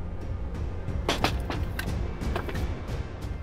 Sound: door closing

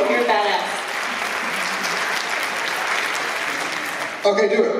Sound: applause

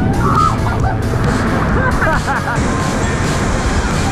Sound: laughing

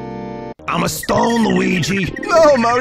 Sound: DiC Mario voice

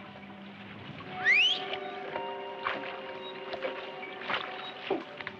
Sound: Tony whistles

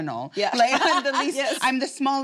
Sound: laughs

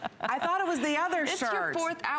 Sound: laughter

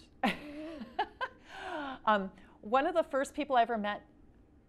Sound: laughing

